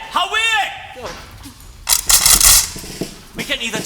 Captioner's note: cocking of guns